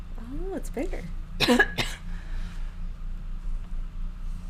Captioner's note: coughing